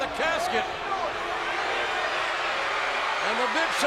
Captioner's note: audience jeers